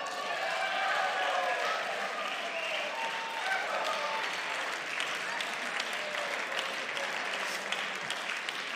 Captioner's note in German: Beifall